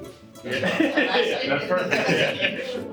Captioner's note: laughs